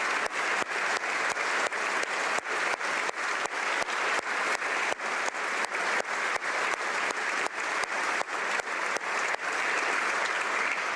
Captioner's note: applause